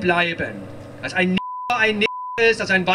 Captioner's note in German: Piepton